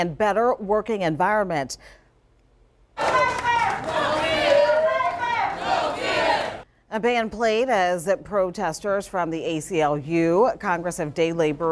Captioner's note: chanting